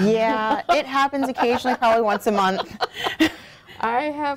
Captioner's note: laugh